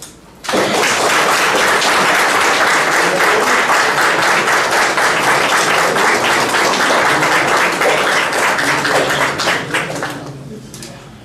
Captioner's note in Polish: oklaski